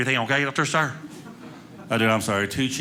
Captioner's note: audience laughing